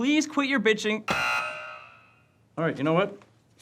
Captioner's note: buzzing